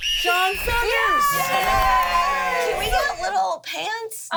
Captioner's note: everyone cheers